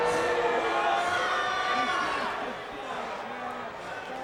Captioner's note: crowd boos